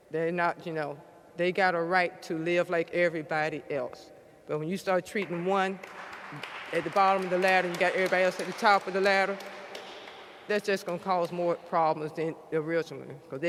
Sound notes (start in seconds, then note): 5.8 audience applauds